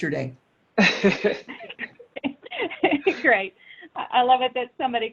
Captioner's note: both laughing